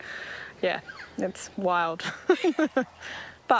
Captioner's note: laughs